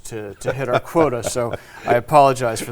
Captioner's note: laughing